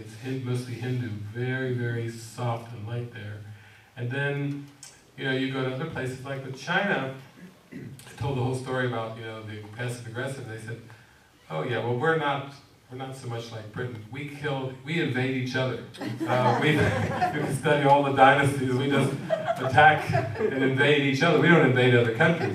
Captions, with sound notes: It was the Hindu; very, very soft and light there. And, then, you know, you go to other places, like with China, I told the whole story about, you know, being passive-aggressive, and they said, "Oh, yeah, well we're not so much like Britain. We kill, we invade each other." (audience laughs) "Study all the dynasties. We just attack and invade each other, we don't invade other countries.